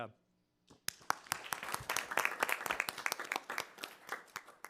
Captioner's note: audience clapping